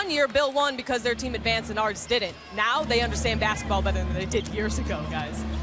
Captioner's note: announcer in background